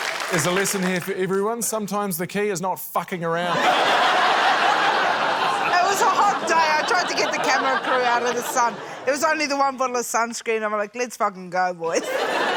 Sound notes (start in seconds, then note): 3.5 laughter; 11.9 laughter